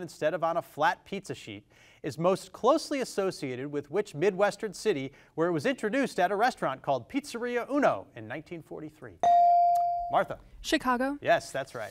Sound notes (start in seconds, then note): 9.2 device dings